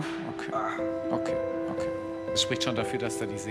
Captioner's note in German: Schmerzvolles Stöhnen